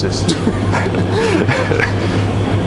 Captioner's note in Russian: хаха